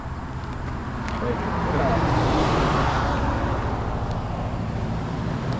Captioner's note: car overlaps dialogue